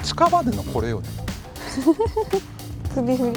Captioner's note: laughs